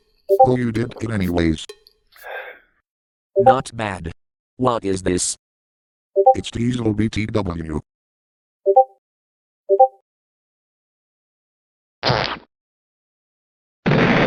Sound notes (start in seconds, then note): 0.0 sipping noises; 0.7 gulp noise; 2.2 exhale; 13.9 fart sfx